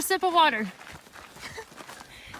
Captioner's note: laughs